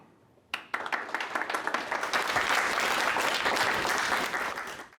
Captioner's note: applause